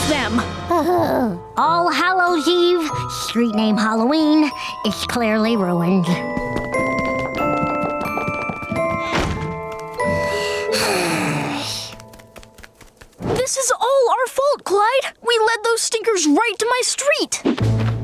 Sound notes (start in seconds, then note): 10.0 sighing